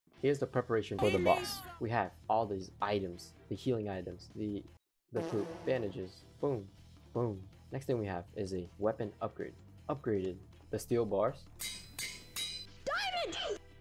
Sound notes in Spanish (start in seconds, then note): 5.1 pedo sfx